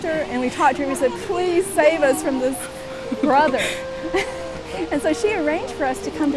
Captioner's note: chuckles